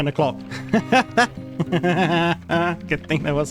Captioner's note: laughs in bucky